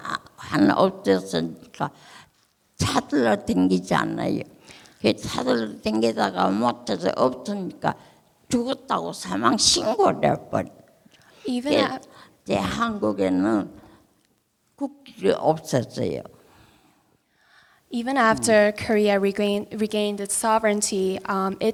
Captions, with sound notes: Even af... (speaking in foreign language) Even after Korea regained its sovereignty,